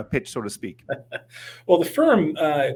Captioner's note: laughing